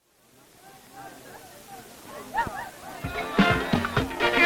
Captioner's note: crowd bustling; energetic music